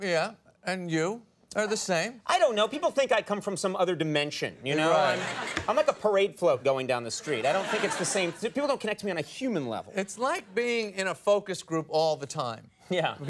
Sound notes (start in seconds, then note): 4.8 audience laughs